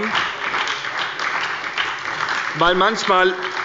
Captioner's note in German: Beifall bei der SPD